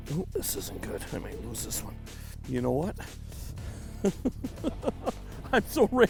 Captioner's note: laughing